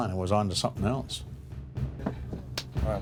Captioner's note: voiceover